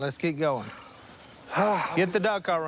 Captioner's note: Si sighs